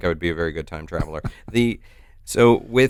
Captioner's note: chuckles